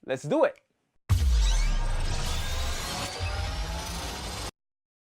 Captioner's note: rewinding squeaking